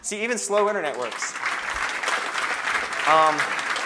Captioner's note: applause